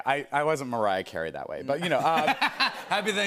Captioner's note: laughter